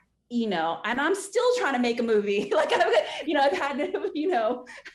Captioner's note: laughing